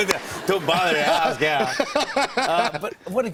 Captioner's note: laughter; laughs